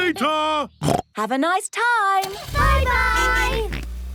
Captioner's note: snorts